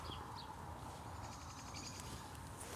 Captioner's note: birdsong